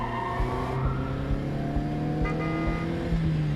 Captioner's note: horn honks